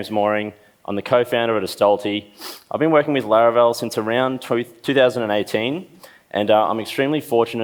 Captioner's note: sniffs